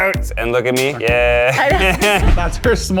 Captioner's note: laughs